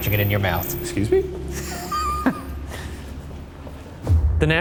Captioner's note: chuckles